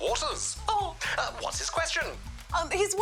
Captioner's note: chuckles